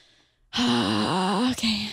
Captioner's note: sighs